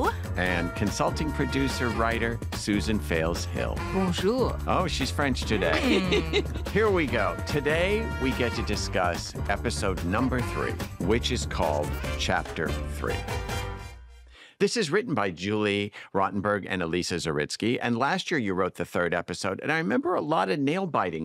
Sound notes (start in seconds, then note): 5.5 laughter; 13.0 music concludes